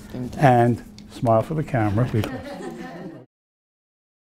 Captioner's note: laughing